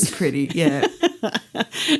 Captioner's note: laughter